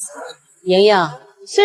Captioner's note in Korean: 잉잉